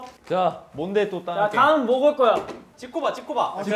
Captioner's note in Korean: none